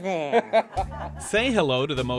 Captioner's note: laughter